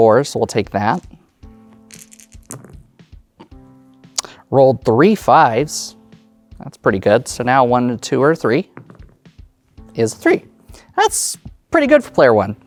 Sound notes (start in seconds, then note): 1.8 dice rolling; 1.8 dice rattling; 8.8 dice rolling